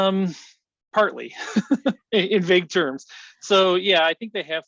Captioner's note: laughs